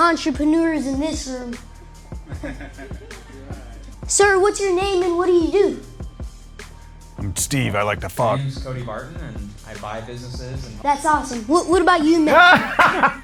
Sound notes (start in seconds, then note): 3.6 laughs; 12.1 both laughing